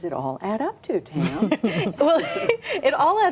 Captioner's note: laughter